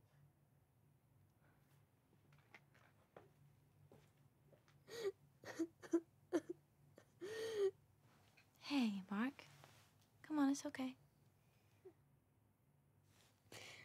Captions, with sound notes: (Mark cries) - Hey, Mark, come on, it's okay.